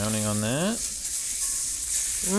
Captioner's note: skillet sizzling